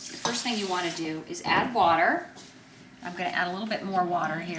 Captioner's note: water gurgling